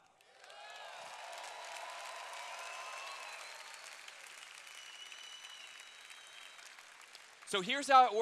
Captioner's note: cheers